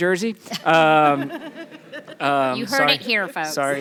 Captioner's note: people laughing